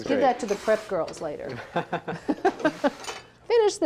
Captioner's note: laughs